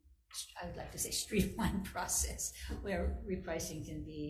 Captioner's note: chuckles